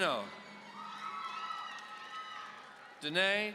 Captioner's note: audience cheering